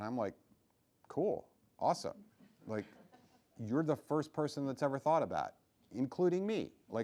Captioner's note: laughing